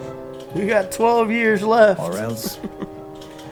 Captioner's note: laughs